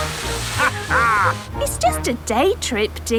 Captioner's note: captain dog laughs